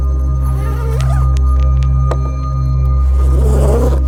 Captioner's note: zippers zipping